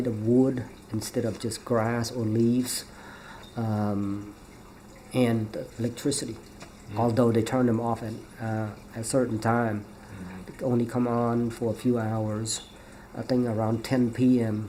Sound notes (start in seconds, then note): none